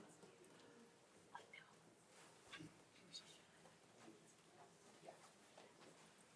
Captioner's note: speaks faintly